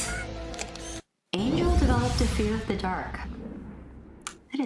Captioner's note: UFO zooms off